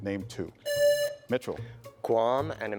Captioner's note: presses buzzer